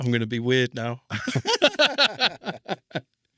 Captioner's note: laughing